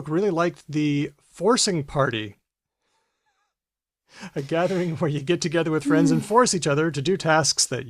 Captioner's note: laughs